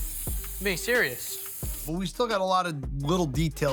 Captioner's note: nozzle spraying